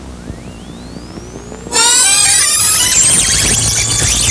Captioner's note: rewinding static